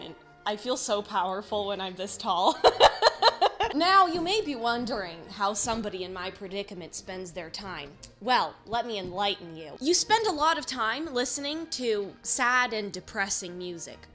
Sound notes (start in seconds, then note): 2.6 laughs; 7.7 tongue click